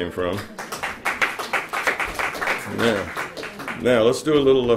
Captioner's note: applause